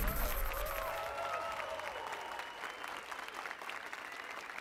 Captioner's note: applause and cheers